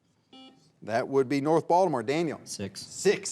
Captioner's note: buzzer beeps